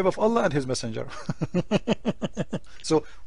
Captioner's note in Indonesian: tertawa